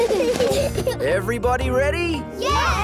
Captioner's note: children giggle